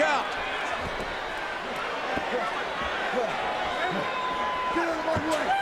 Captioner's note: audience chattering